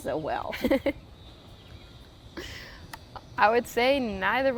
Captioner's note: chuckles